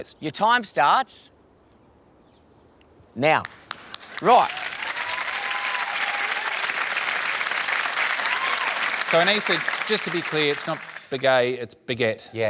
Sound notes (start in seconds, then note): 3.6 cheering, applause